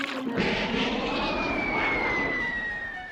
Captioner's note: whistling through air